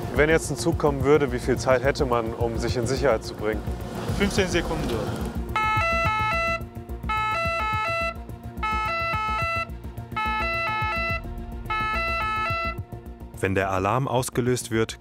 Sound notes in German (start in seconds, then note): 10.0 Signalton hält an